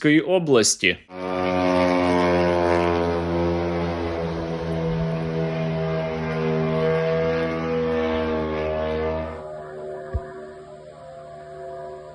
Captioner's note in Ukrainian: звук дрона